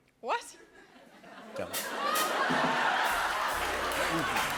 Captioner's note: laughter